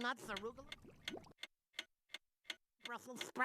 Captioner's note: clock ticking